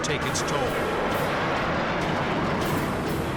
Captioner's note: jet engine noises